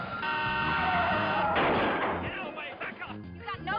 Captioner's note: horn honking